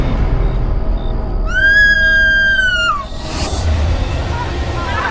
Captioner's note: dramatic music; Tommy screams shrilly; intense music